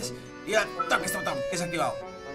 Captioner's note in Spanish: Emocionado